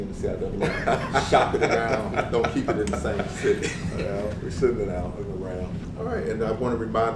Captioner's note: laugh